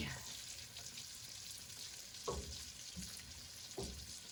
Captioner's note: sauce bubbling